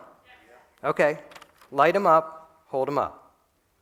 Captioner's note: voiceover